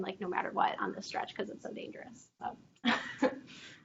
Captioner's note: chuckles